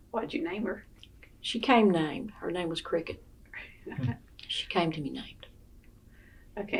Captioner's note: laughter